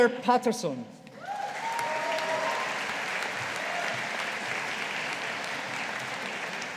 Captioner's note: audience applauding